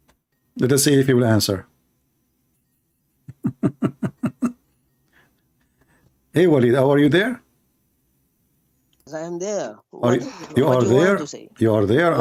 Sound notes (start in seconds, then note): 3.3 Ketawa